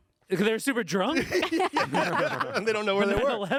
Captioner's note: group laughing